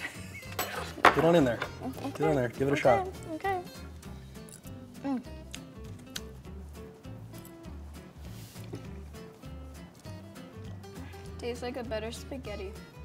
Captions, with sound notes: - (laughter) - Get on in there. - Okay. - Give it a shot. - Okay. Okay. Mmm. - (chewing) - Tastes like a better spaghetti.